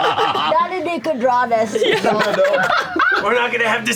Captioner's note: laughs